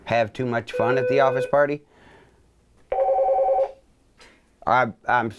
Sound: phone rings

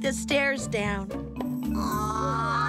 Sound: all groaning

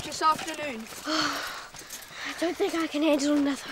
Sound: Cass sighs

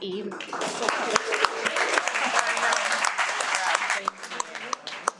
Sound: everyone applauds

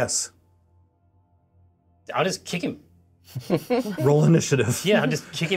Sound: co-hosts laughing

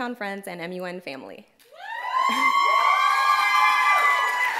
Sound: cheering

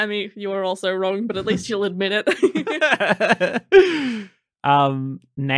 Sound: laughing

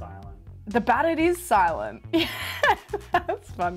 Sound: laughs

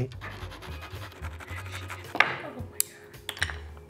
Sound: saw scratching

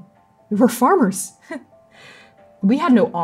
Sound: humorless laugh

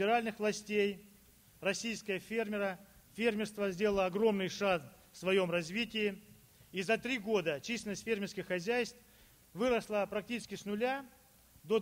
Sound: speaking Russian

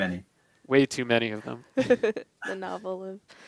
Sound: all Laughing

